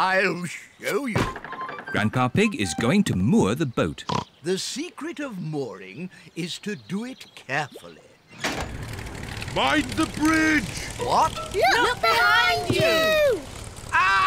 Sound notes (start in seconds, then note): 4.0 oinks